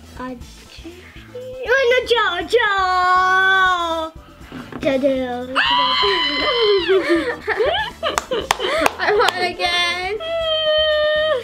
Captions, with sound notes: - Audrey? Oh, no, Jo, Jo! Jo, Jo, Jo. (squeals) (laughs) - I won again.